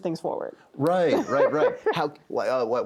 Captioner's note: laughs